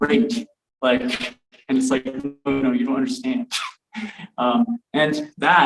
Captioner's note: chuckles